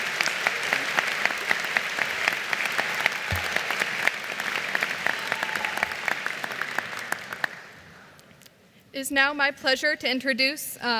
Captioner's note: applause